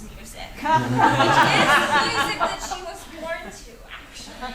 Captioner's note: audience laughs